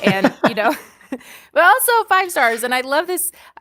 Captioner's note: laughter